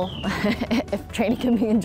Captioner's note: chuckles